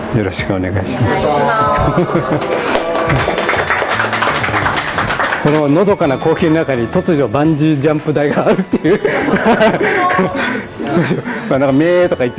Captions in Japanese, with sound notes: よろしくお願いします。 （拍手） こののどかな光景の中に、突如、バンジージャンプ台があるという（笑い）。